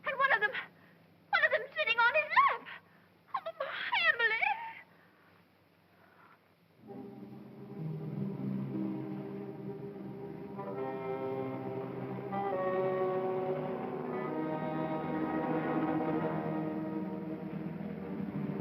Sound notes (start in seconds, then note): 3.4 stammering; 6.8 ominous music